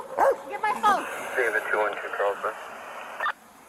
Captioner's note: radio chatter